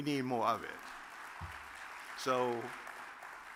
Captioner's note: audience claps